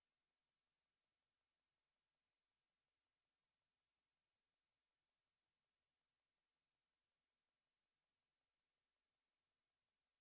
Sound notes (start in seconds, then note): none